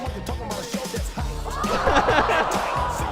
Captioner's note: audience gasping; laughter